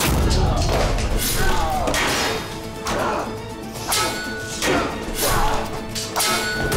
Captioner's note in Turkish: Kılıç sesleri